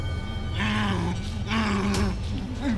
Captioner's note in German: Aggressives Stöhnen